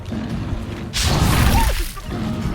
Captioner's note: medieval music; weapon slashes; creature growls